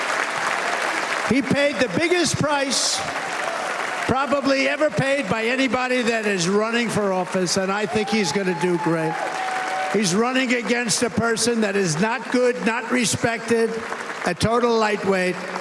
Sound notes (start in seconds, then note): 1.2 cheers and applause